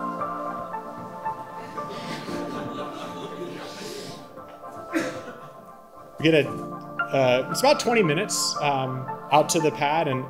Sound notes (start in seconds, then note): 1.5 audience laughing